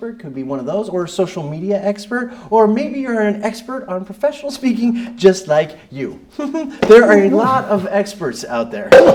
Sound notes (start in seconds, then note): 6.3 giggles